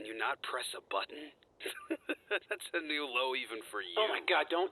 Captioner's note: laughs